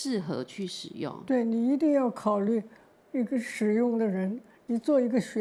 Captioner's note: Mandarin